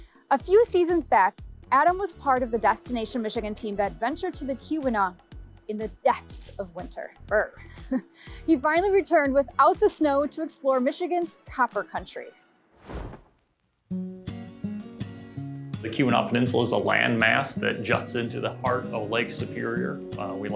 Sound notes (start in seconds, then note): 7.5 chuckling; 12.7 screen whooshing; 12.9 lively music